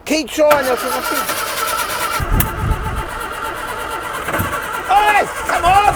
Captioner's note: engine rumbling